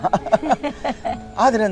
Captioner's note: both laughing